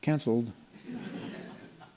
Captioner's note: laughter